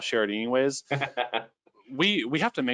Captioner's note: laughing